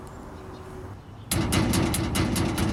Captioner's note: banging on Dumpster